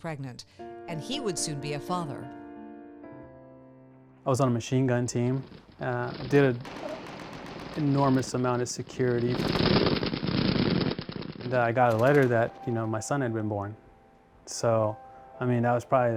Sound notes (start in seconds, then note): 8.8 machine guns rumbling